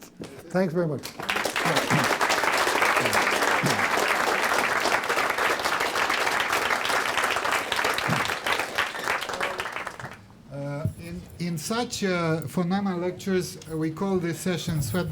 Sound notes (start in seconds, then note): 1.0 applause